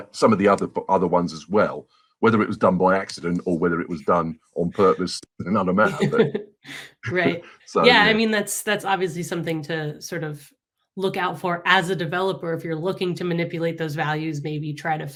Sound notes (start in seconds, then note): 5.5 laughs